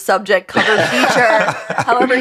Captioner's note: laughter